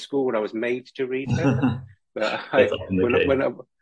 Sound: laughs

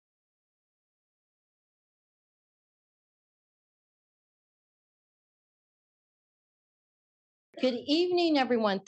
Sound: silence

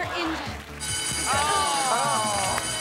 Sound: buzzer

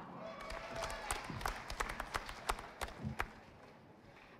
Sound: audience applauding

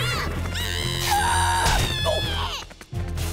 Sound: screaming

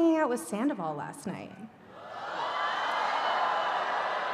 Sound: cheering

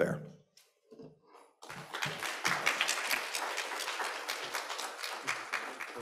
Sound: applause

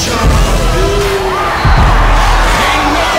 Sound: cheering

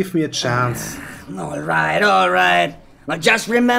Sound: sigh

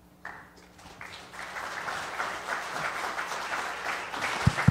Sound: audience applauds

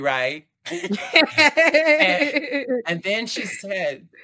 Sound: laughter

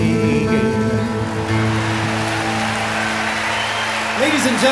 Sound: audience cheers

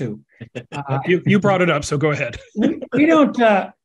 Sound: laugh

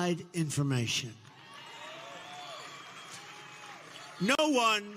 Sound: audience cheering

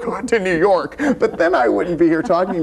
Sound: laughs

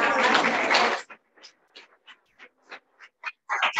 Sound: audience clapping

